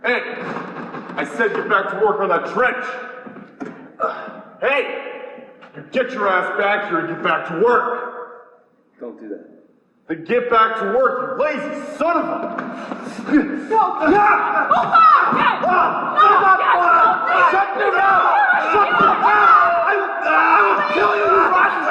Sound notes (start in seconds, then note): 13.7 yells; 16.3 yelling and fighting